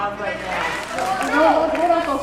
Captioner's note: smattering applause